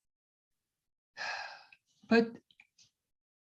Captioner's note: sighs